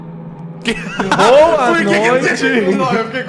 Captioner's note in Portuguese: risada